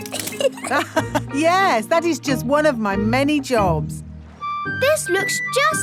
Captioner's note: laughs